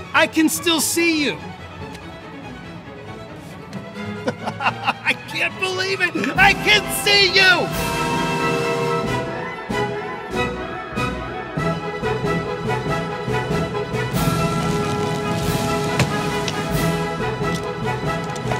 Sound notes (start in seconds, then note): 4.1 laughing